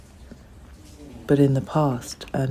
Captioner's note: shower sound